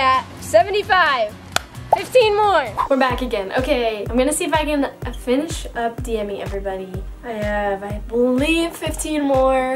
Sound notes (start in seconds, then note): 0.6 claps; 2.7 air whooshing; 6.7 upbeat music